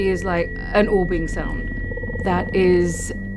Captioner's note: orbing sound